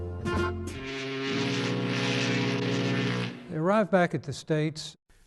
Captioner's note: horn blaring